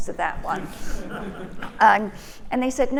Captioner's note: audience laughing